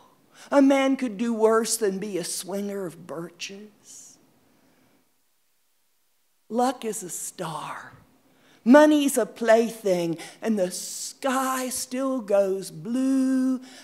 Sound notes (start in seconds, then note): 5.9 reciting "The Fireborn are at Home in Fire" by Carl Sandburg